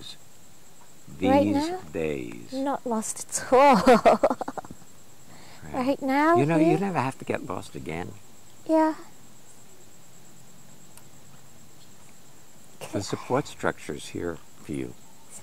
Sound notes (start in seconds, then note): 3.5 laughing